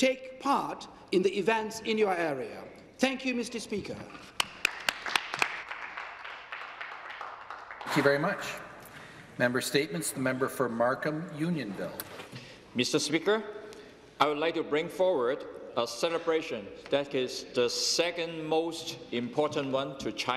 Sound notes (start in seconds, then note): 7.1 some applause